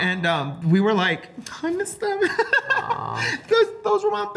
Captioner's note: laughs